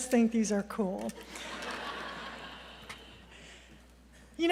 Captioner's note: laughter